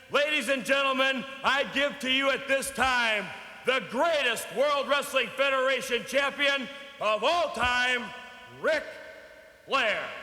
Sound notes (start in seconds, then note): none